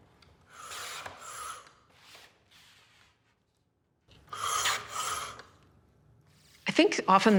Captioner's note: blade swishes